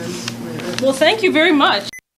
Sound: recording stops

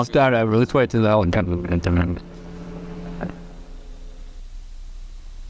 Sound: airplane noise... lets wait for it to go

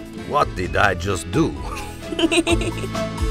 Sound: Peanut, Dexter and Lilly laugh

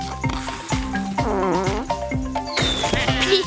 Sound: farting

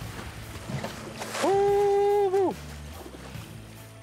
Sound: shouting

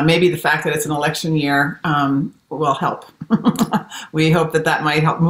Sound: laughs

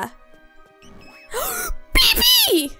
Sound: gasps

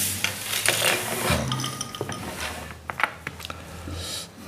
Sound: glass clinking

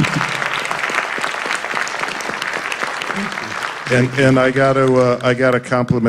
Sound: applause

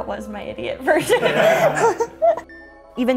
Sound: laughing

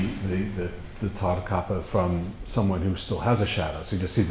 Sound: foreign language

